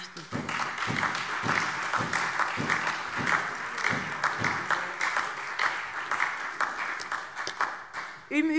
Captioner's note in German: Lebhafter Beifall SPD, Freie Demokraten und DIE LINKE